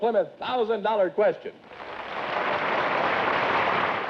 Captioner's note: applause